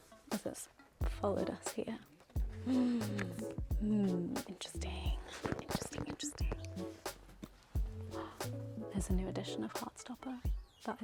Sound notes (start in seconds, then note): 2.6 gasps; 8.1 gasps